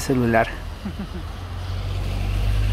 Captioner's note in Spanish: sonido ambiente de lluvia y bus